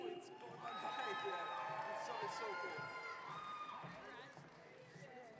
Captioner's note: audience cheering